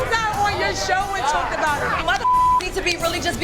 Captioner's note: beep